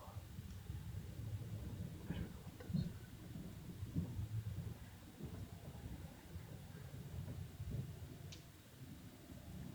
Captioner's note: foot steps